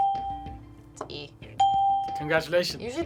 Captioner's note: bell rings